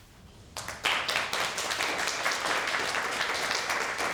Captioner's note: applause